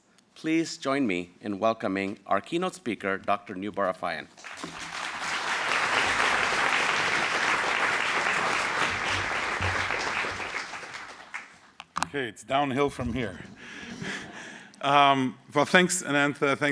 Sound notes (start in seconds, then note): 4.4 applause